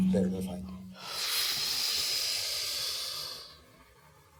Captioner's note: inhaling sharply